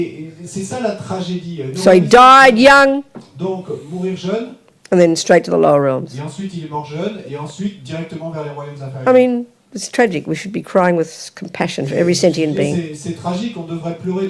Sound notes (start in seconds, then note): 2.1 speaking in French; 6.1 speaking in French